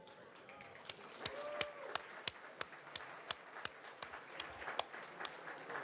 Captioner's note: audience applauds